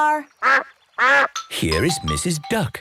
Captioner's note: quacks